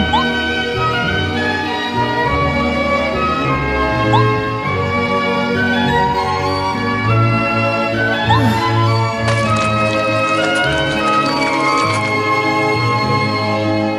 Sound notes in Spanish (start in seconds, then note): 8.1 nom nom nom